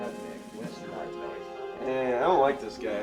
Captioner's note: players chattering